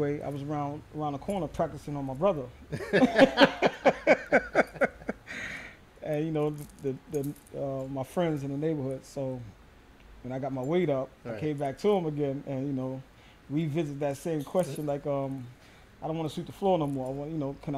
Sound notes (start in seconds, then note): 2.7 laughter